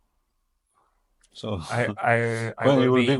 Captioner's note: laughs